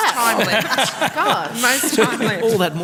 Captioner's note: laughter, crosstalk